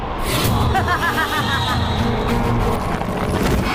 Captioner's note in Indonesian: tertawa